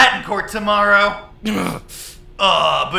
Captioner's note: laughs; low frustrated growl